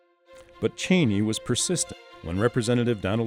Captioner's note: voiceover